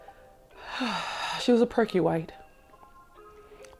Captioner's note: sighs